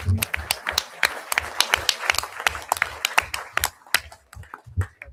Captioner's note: audience applauding